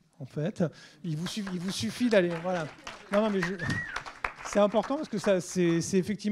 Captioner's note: applause